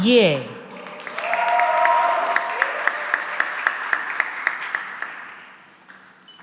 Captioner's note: cheering and applause